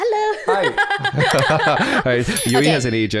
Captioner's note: laughter